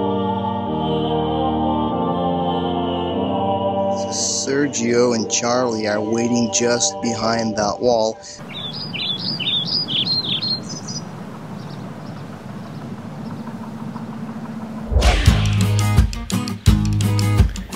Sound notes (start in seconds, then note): 7.8 birds chirping